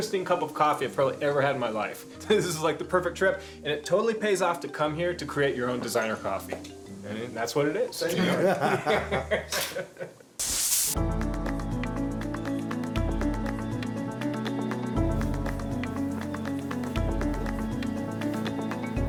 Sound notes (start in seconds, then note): 8.1 laughter; 10.9 upbeat percussive music